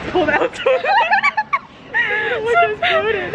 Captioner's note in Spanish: ambos riendo